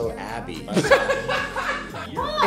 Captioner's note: laughter